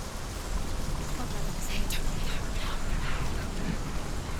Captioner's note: whisper